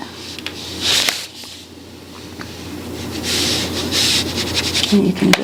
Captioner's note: brush whirring